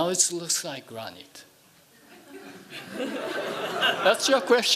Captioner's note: laughing